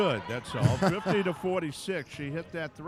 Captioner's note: chuckling